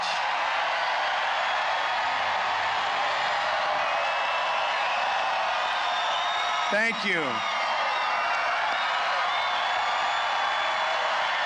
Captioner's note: applause